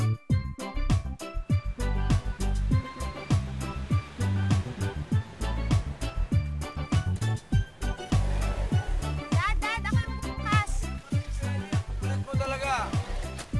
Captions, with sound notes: [engine idling] -I'll open it, Dad. -Let Fely do it. You're so stubborn.